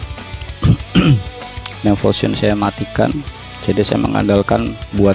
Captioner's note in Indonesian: berdehem